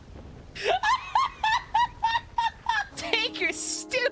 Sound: laughter

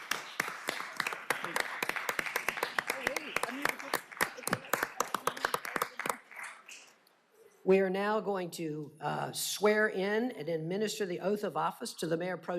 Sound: applause

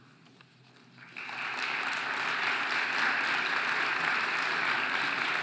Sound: audience applauding

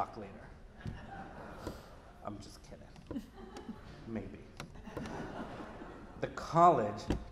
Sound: laughter

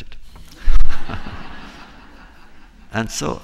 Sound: laughter

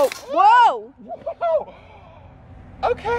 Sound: screams

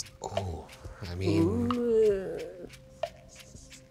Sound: timer ticking

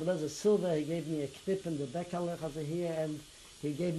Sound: non-english

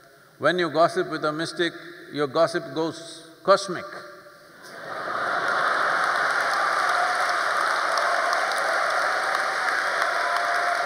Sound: laughter/Applause

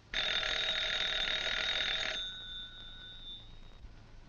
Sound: phone rings

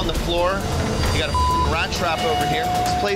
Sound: beep

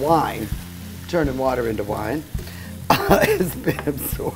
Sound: laughing

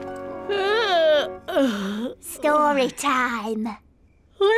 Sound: yawns

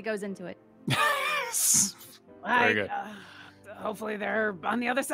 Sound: laughs

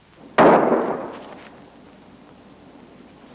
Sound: gun firing

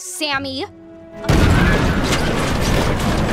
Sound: thuds

